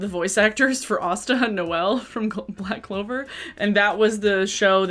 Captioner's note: chuckle